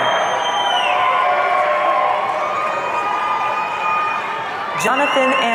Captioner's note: audience cheering